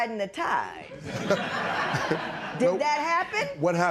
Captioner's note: laughter